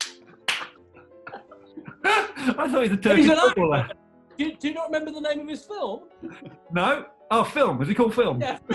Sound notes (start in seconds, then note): 0.0 clapping; 0.9 laughing